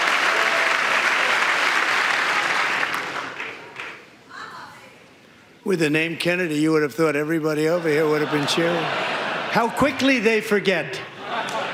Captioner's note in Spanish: aplausos